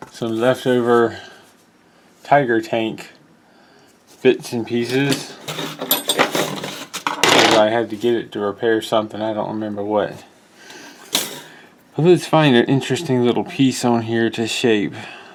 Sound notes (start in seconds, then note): 4.8 tools rattle